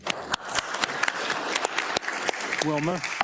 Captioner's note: attendees applauding